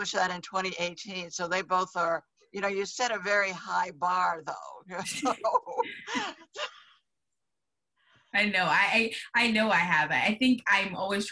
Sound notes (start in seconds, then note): 5.0 laughs